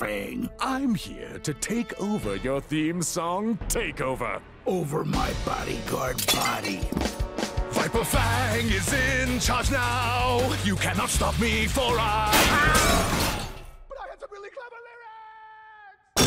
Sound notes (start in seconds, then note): 7.4 singing; 12.3 crashing